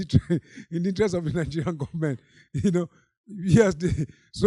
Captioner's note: chuckling